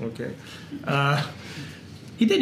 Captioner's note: laugh